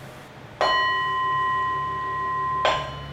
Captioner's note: sound of bell